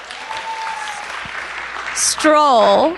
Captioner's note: applause